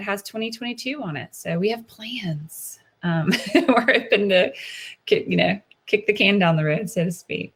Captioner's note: laughs